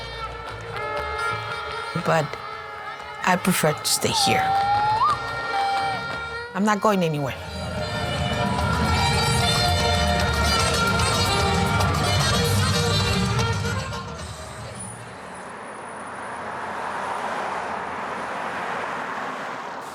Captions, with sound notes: But I prefer to stay here. I'm not going anywhere. (lively music) (cars whooshing)